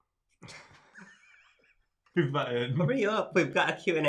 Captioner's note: both laughing